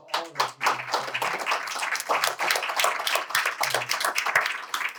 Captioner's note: applause